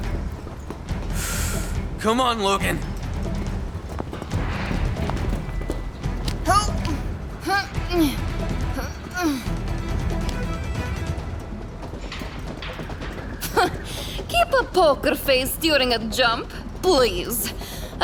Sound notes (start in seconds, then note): 1.1 deep breath; 7.1 grunting; 13.3 scoffs